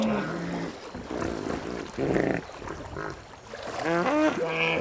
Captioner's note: hippos grunting